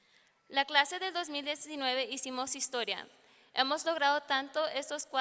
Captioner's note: speaking in foreign language